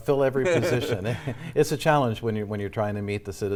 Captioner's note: laughter